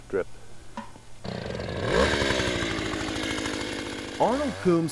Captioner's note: motor starting